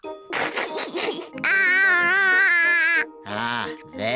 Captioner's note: giggles